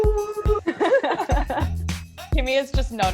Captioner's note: laughing sound